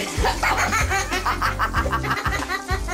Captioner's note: laughter